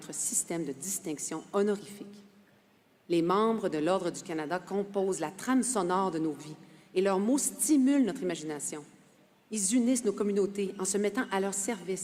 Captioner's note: speaking French